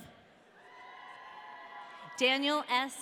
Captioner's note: audience cheering